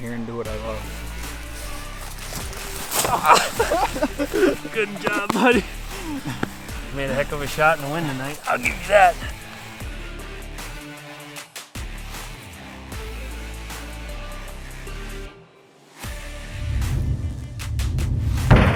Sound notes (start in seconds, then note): 3.0 laughs